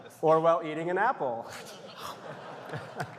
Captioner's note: laughter; applause